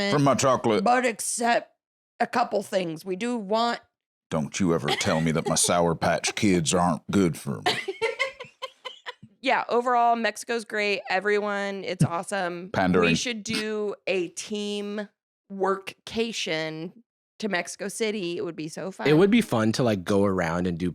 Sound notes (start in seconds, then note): 7.2 laughs